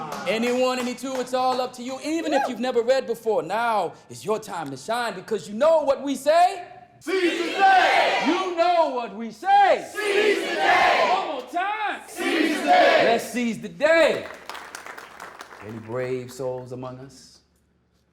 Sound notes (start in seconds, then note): 7.0 crowd; 14.0 applause